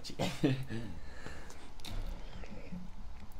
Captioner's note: chuckling